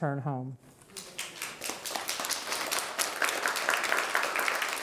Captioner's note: audience clapping